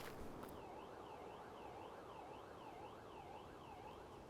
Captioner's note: distant siren